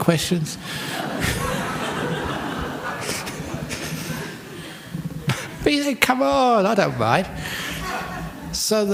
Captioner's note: laughter